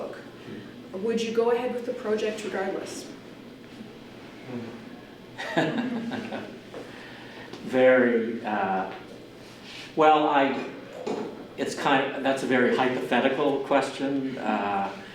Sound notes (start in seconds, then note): 5.4 laughs